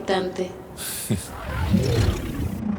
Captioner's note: giggles